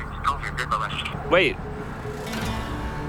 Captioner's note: line disconnects